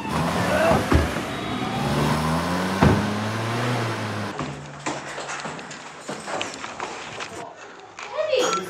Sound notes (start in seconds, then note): 4.4 camera operator footsteps